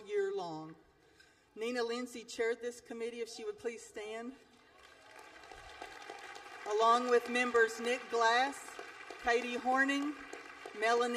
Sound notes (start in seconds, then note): 4.6 applause